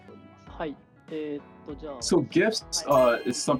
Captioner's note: speaking japanese